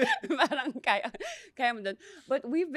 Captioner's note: laughs